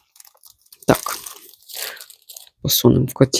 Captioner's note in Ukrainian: сопіння